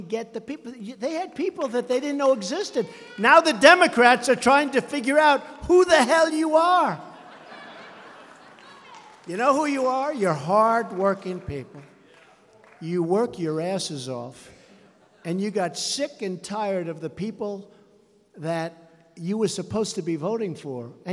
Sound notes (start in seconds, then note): 7.0 laughter